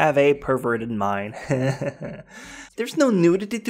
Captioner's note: guilty laughter